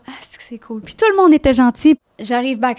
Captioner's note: in french